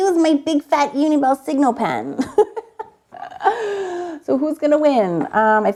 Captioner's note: laughs